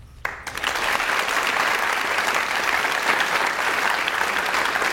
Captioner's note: audience applauds